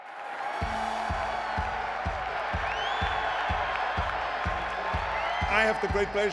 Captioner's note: audience cheering; upbeat music